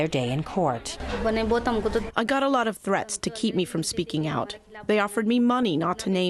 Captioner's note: through translator